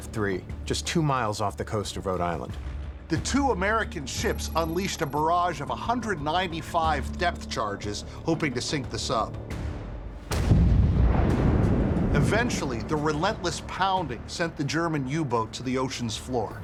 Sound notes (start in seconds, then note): 10.2 explosion blasts; 10.2 water splashing